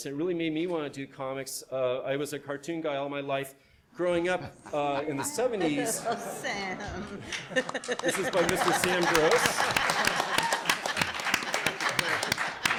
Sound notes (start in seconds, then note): 5.9 audience laughs; 9.4 audience claps